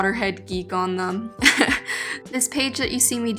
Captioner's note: laughing